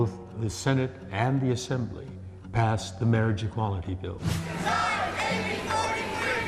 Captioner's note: chanting